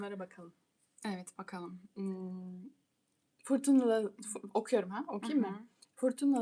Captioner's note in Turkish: boğazını temizler